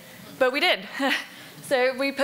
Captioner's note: laughs